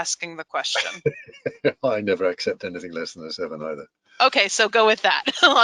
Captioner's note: laughs